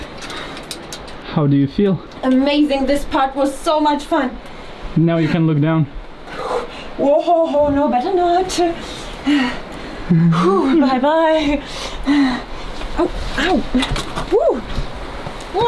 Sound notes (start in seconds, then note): 9.5 pants; 10.0 chuckles